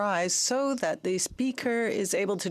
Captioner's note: speaking in French